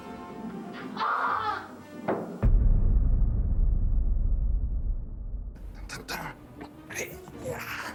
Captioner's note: screaming